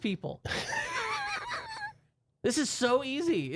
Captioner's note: softly laughing